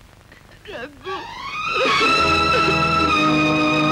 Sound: crying

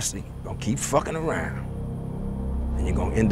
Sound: ominous sound

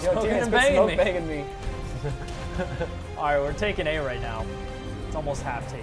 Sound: laugh

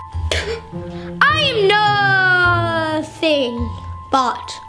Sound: quirky music; gasps

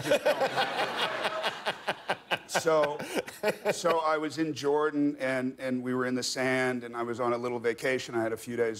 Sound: laughter

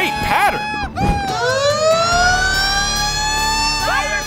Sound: siren blaring

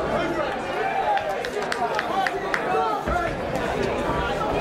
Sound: clapping

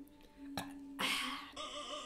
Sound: burps

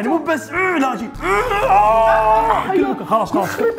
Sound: screams and moans

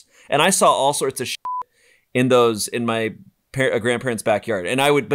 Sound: beep

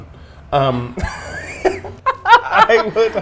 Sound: laughs

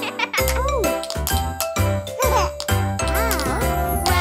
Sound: tapping

